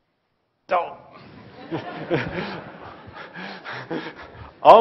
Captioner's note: laugh